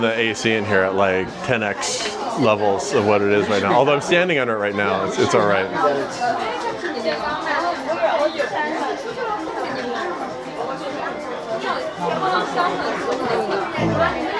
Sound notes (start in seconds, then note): 6.7 crowd chattering